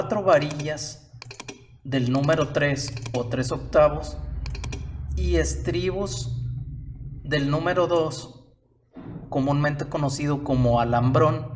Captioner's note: rings